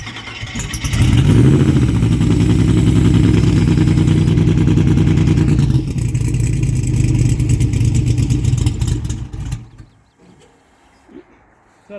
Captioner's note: car starts up